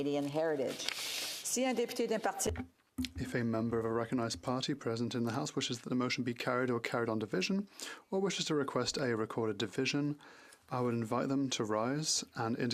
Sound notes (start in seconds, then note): 6.9 speaking French